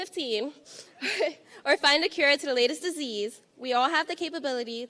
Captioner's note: laughing